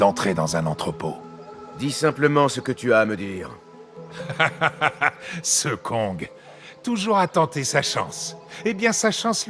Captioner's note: laughs